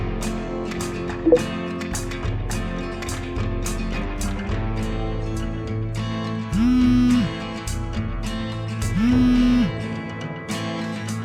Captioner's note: phone Vibrating